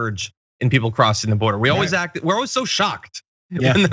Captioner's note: laugh